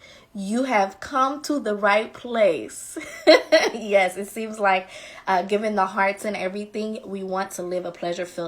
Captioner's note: laughing